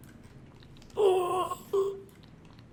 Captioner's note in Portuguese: Grunhidos